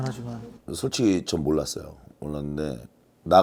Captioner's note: haha